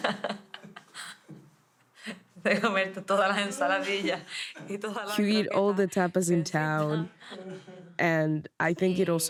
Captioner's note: laughter